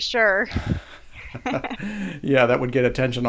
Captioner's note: both laughing